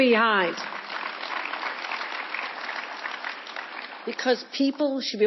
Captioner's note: people clapping